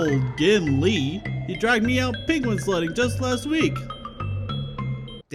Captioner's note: in old man's voice